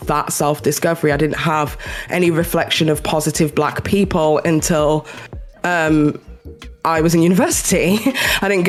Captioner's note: chuckles